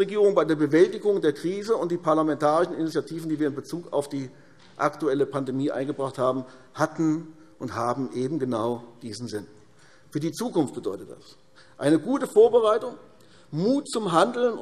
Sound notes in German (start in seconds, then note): none